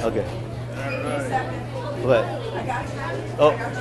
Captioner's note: faintly speaks